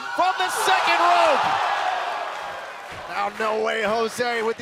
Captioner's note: crowd cheering